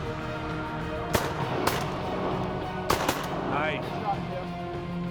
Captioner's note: gun shots